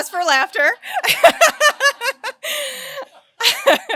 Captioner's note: laughs